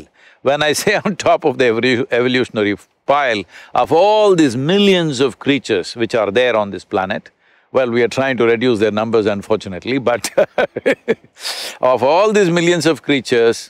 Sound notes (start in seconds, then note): 10.2 laughs